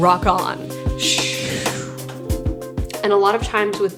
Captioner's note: imitating wind swooshing